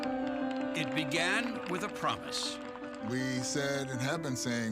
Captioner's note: cheering and applause